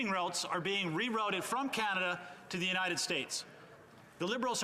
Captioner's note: none